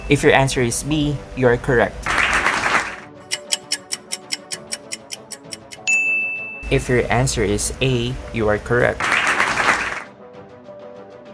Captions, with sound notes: If your answer is B, you are correct! [clapping sound] [clock ticking] If your answer is A, you are correct! [clapping sound effect]